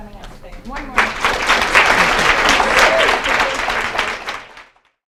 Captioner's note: applause